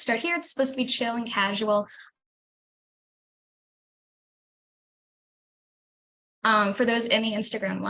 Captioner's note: silence while video is frozen